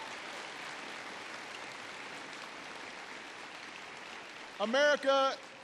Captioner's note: applause